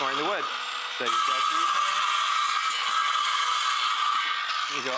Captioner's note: saw blade cutting